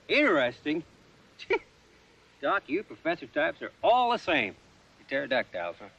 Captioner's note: laughing